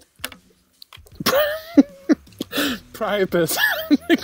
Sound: laughs

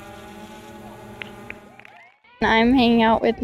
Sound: applause

